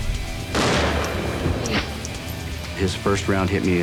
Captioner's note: gunshot